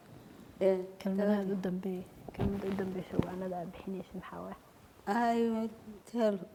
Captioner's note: speaking foreign language